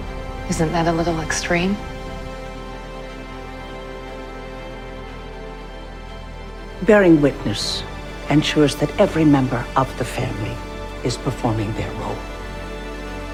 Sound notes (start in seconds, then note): 7.3 voiceover